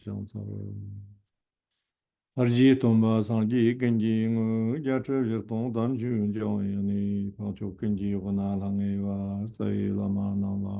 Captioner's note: is chanting prayers in Tibetan